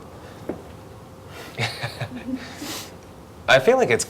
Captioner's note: cute laughing